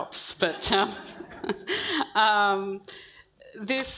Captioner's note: audience laughs